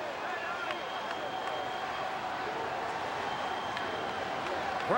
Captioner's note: crowd cheering